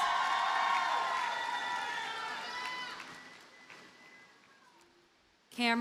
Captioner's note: audience cheers and applauds